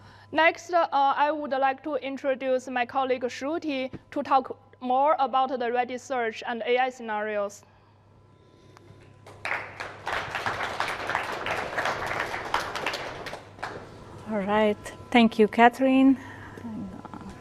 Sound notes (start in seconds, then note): 9.2 applause